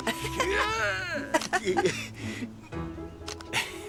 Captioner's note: chuckling; shutter clicking; chuckling